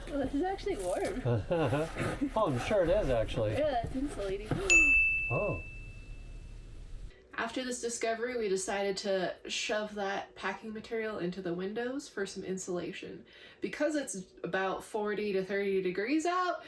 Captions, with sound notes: Well, this is actually warm. [Laughs] Oh, I'm sure it is actually. Yeah, it's insulating. [Ding] Oh. After this discovery, we decided to shove that packing material into the windows for some insulation. Because it's about 40 to 30 degrees out,